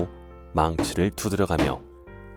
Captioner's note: hammering sound